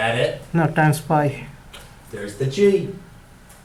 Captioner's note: voiceover